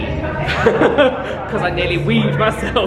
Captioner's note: laughs